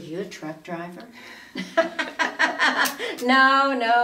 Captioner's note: both women laughing